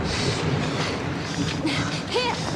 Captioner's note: both breathing heavily